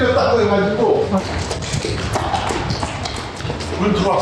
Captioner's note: urgent footsteps